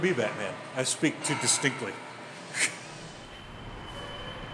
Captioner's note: air brakes shushing; scoffs; high squeaking